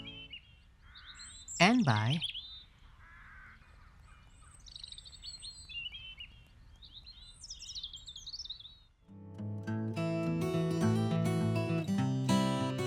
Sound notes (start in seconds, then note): 4.1 birds chirping; 9.1 gentle guitar music